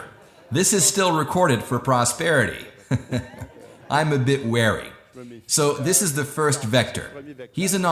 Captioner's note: laughs